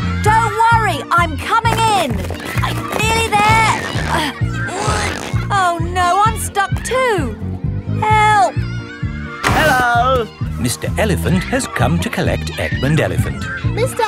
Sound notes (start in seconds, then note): 4.7 grunting